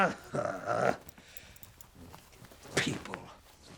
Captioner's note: man grunts